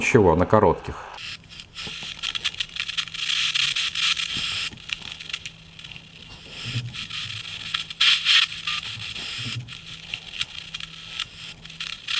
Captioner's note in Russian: Радиошум